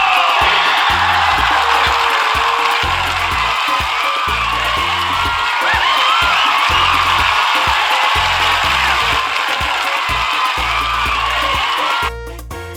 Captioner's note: cheers